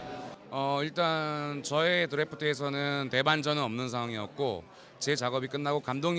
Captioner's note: speaks in a foreign language